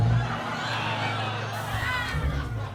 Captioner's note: laughter